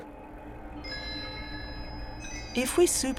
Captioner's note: machine chimes